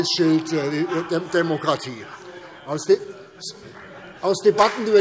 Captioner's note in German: Beifall CDU und BÜNDNIS 90/DIE GRÜNEN - Zuruf CDU: Woher denn?